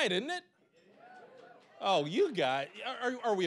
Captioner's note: scattered cheering